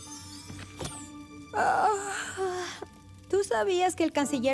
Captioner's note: yawn